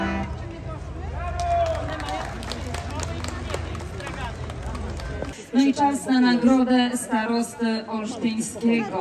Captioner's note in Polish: Aplauz